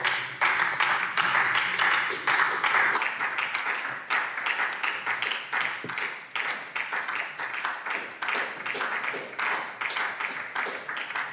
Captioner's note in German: Beifall SPD